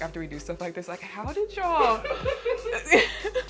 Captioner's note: laughs